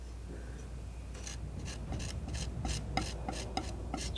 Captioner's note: metal scraping